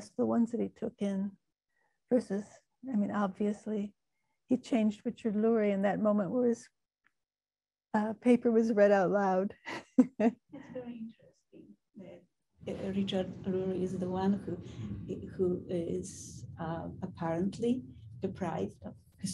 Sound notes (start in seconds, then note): 9.5 laughing; 11.1 woman's Voice